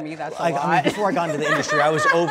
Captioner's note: all laughing